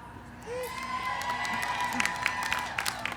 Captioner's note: cheering, applause